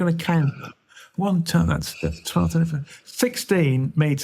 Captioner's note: mumbling